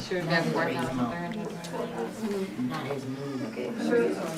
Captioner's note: students chattering